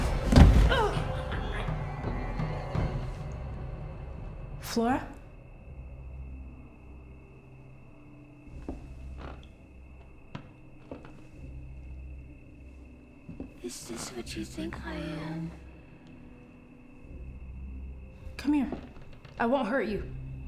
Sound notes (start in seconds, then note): 0.0 Claire thuds; 10.7 floorboards creaking